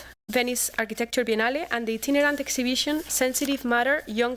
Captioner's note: non-english speech